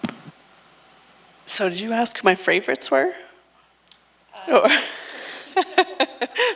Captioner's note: laughs